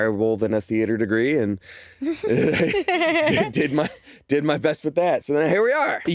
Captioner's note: chuckle